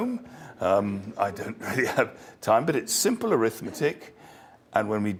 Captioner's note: laugh